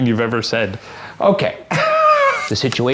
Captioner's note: laughs